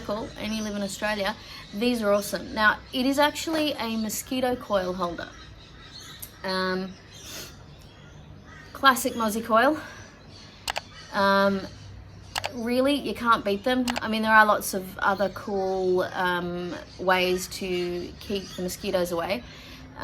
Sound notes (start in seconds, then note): 7.2 sniffs